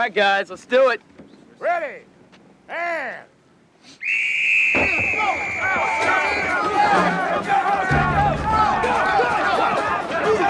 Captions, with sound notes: - All right guys, let's do it. - Ready and (whistle blows) (officers yelling)